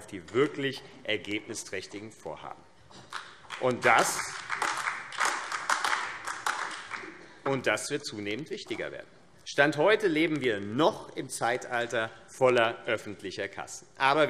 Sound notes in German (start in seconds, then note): 3.4 Beifall AfD